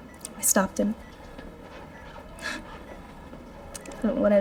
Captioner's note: chuckles